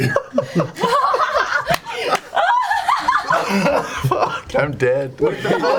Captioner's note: all laugh